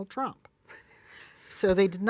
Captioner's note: laughs